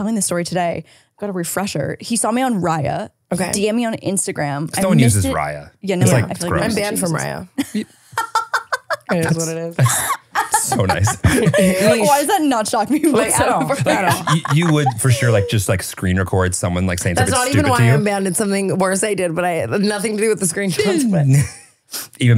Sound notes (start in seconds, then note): 6.0 laughing